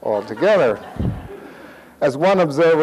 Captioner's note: audience laughs